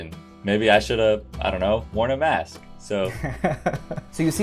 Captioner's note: laughter